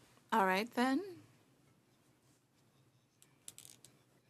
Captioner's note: speaking French